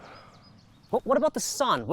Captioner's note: sighs